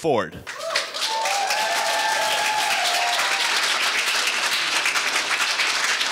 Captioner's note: audience cheering and applauding